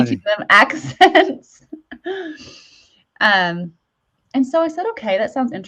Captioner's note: chuckles